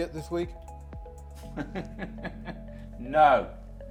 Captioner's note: laughing